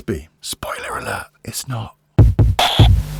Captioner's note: whispered